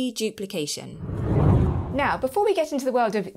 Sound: air swooshing

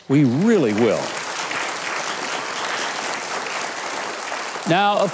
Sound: audience clapping

